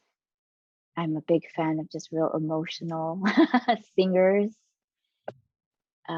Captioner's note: chuckling